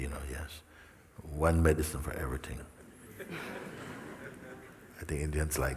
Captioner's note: laughter